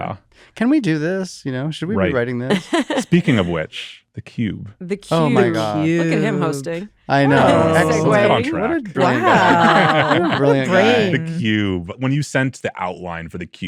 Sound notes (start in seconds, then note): 7.4 laughter